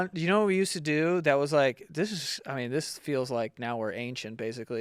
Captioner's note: none